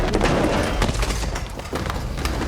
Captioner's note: thud